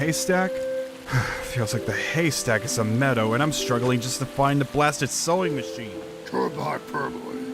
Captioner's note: sighs